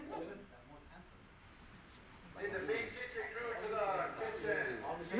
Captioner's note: indistinct conversations